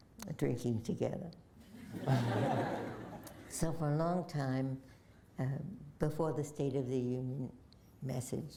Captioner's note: laughter